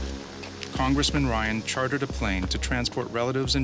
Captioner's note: voiceover